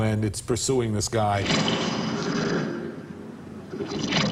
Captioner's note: snarling